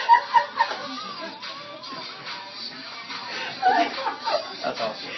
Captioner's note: laughter